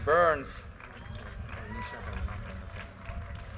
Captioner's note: audience cheers and applause